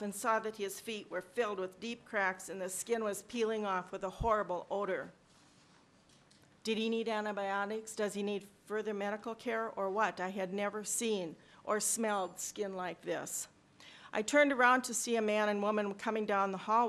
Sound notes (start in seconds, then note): none